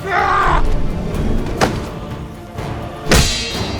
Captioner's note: grunts